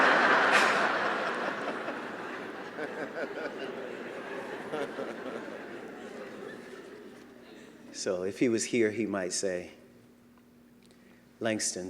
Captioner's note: laughter